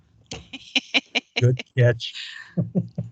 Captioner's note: laughing